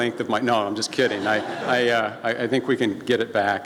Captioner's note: laughing from audience